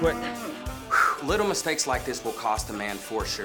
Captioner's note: exhales